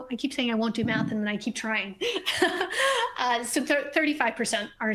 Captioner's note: laughs